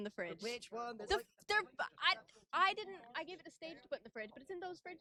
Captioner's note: stammering